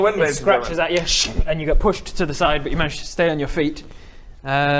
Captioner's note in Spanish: sssrrch